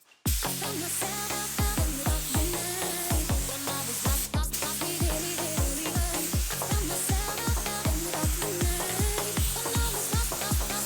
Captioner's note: working sound